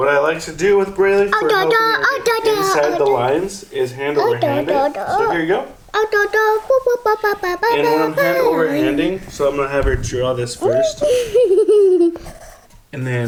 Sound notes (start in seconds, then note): 4.1 babbles; 5.9 continues babbling; 10.5 laughing